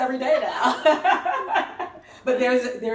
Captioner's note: laughs